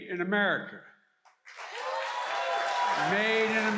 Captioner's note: applause